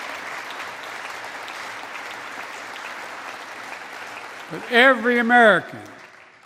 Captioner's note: applause